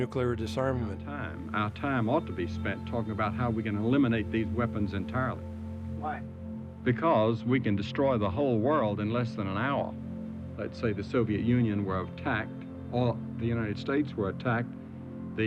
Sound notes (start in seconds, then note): none